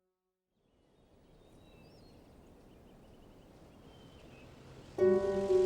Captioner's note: birds twittering; light melodic orchestral music